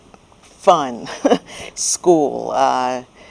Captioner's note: laughs